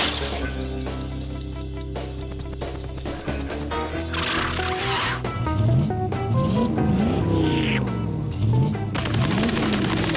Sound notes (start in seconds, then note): 6.4 engine revving